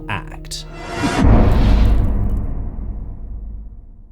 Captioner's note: impact